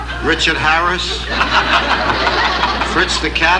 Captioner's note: Don laughing; audience laughing and applauding